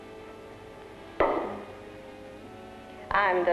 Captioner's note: glass sets down